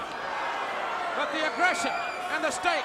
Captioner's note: crowd cheering